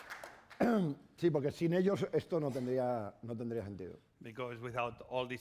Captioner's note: speaking spanish